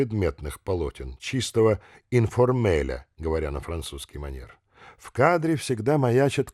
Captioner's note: speaking in the French manner